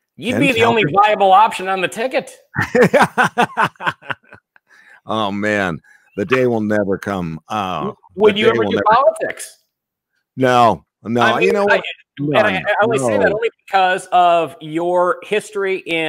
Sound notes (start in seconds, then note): 2.6 laughing